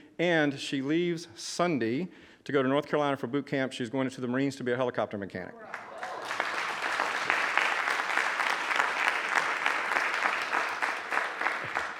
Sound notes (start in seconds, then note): 5.6 audience applauding